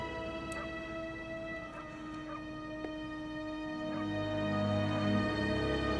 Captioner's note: melancholy music; dog barking